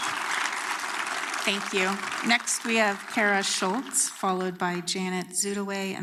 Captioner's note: applause